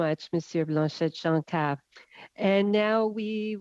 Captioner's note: speaking French